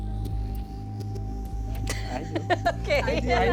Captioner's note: laughs